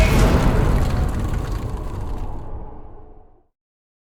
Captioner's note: impact